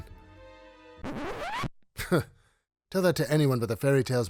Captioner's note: record whizzing